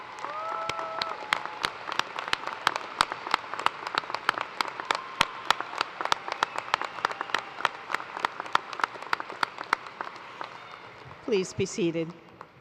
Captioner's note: cheers and applause